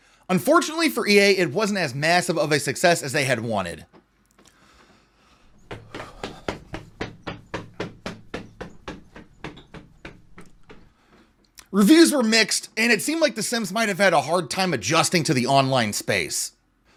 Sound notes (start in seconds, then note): 5.4 running noises